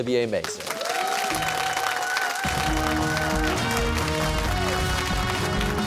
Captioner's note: cheers and applause